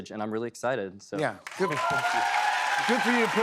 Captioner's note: cheers and applause